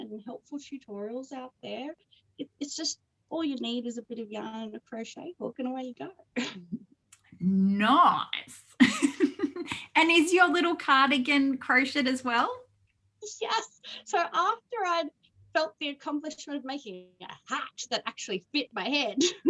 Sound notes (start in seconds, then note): 6.4 chuckles; 8.8 chuckles